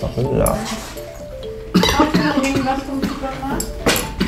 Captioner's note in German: Er hustet